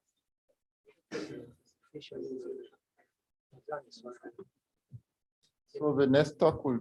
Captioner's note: background chatter